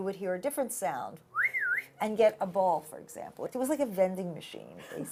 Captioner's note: whistles